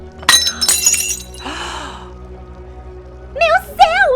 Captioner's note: breaking glass